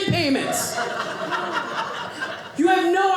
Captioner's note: audience laughing